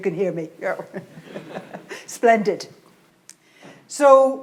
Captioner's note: laughs